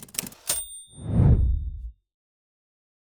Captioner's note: typing; whooshing